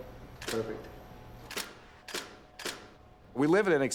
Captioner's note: camera clicking